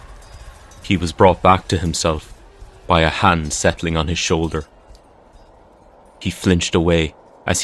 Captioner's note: sounds of battle cut out and moutain wind returns